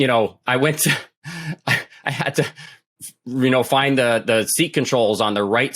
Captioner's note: laughs